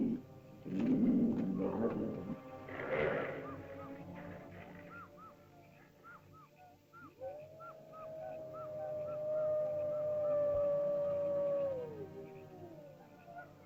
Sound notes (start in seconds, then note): 0.0 growling sounds; 0.0 ominous music; 3.8 animal chirps; 3.8 ominous music; 7.0 animal howls; 7.1 ominous music